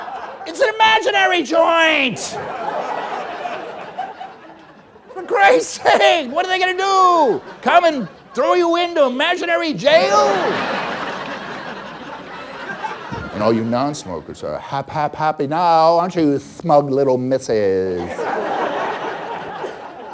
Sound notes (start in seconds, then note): 7.4 coughs; 9.9 laughter; 19.9 laughter